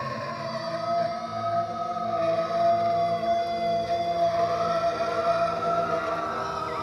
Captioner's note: Lucifer screaming; dramatic music